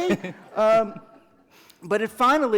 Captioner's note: laughter